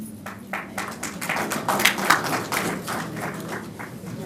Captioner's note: applause